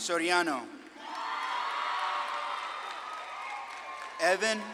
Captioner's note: audience claps and cheers